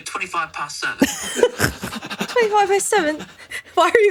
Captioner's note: laughing